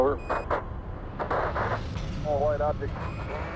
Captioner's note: radio static